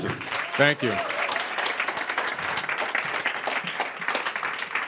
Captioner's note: applause